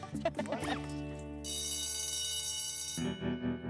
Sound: laughs; bell rings

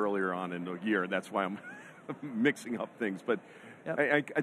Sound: laughs

